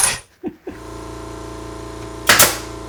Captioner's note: engine rumbling; nail gun clicking